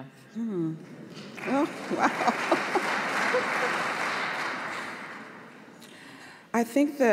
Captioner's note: applause